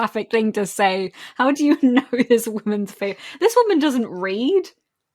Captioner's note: laughing